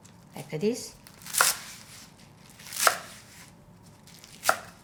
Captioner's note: knife slicing